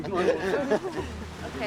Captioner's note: laughter